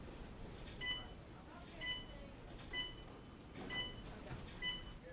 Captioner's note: monitor beeping